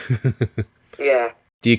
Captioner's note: giggles